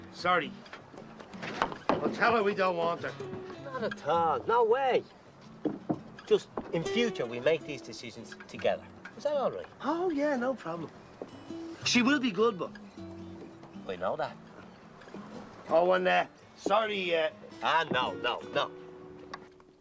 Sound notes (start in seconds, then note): none